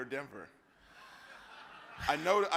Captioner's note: audience laughs